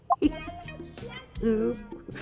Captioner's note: laughing